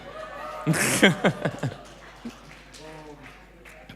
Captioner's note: laughing